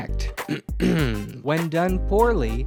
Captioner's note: cough